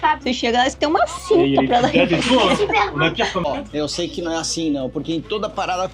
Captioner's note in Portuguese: risadas